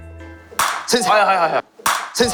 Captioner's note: construction site ASMR